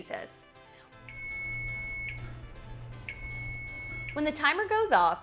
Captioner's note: tone beeping